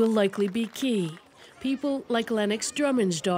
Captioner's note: applause